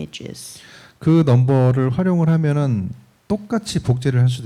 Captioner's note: speaking korean